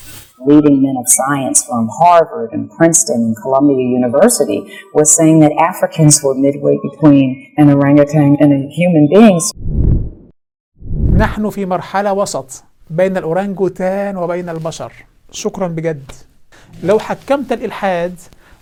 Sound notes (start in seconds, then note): 9.7 logo and sound effect